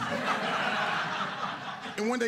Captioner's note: audience laughing